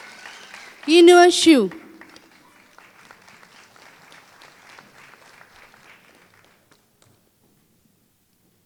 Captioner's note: applause